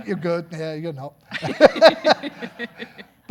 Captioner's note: laughing; audience laughing